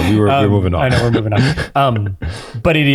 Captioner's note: laughs